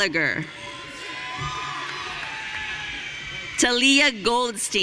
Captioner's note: audience cheering